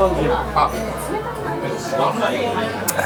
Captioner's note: chugging down